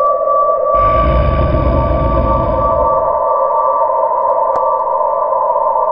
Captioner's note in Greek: Γρυλίζει άγρια